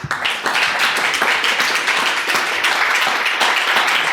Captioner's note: audience applauds